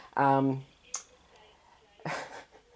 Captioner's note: laugh